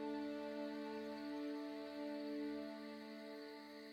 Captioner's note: crickets chirping